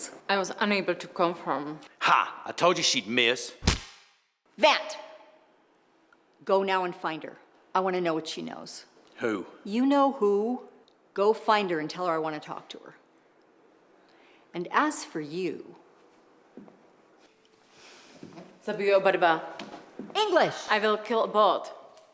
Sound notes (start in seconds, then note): 18.2 speaks another language